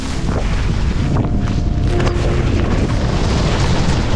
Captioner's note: wind blustering